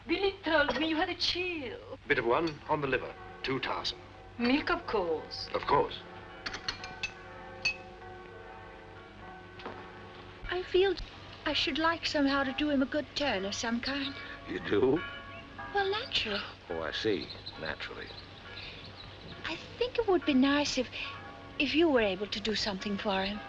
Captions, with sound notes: Billy told me you had a chill. Bit of one. On the liver. Too tiresome. Milk, of course. Of course. [Church Bells] I feel I should like somehow to do him a good turn of some kind. You do? Well, naturally. Oh, I see, naturally. I think it would be nice if... If you were able to do something for him.